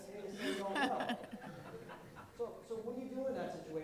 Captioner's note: laughter